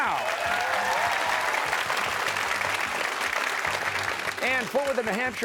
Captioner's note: applause